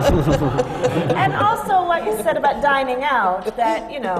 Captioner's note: laughter